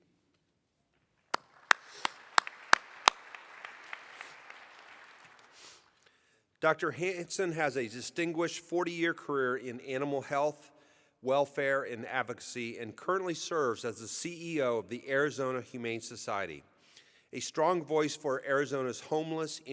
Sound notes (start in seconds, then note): 6.3 applause